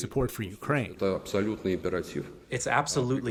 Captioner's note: through translator